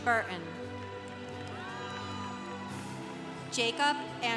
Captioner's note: congregation applauding